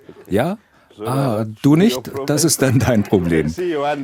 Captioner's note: laughs